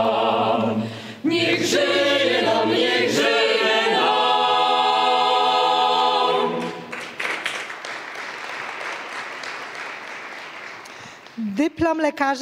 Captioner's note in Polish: oklaski